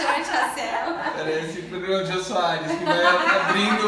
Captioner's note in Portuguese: risos; risos